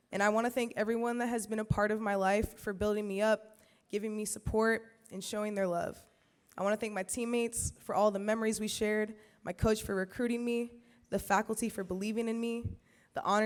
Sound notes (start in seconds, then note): none